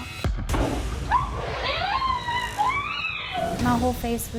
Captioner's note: flame bursting and woman screaming